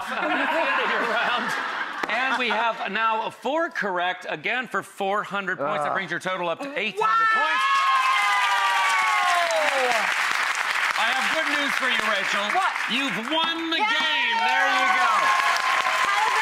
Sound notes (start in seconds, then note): 0.0 laughter; 8.6 audience cheers